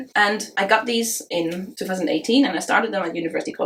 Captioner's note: none